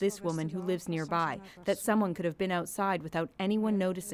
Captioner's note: speaking French